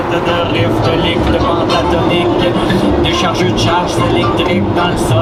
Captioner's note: radio playing